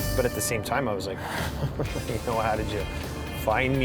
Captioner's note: laughs nervously